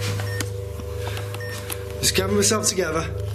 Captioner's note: beeping